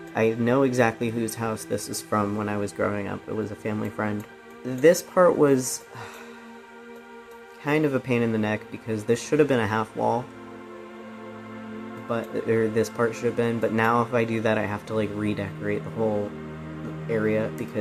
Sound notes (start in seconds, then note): 5.9 sigh